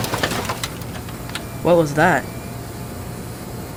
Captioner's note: crashing noise